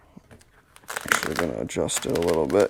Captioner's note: material shuffling